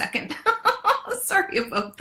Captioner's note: laughs